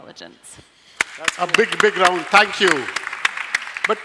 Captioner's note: applause